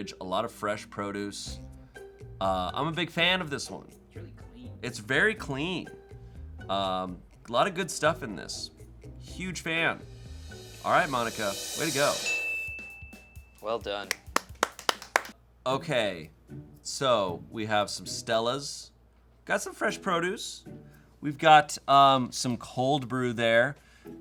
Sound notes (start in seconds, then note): 11.3 bell dings; 12.0 upbeat music; 14.1 crew clapping